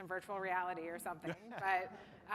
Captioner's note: laughter